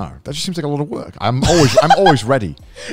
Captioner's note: laughs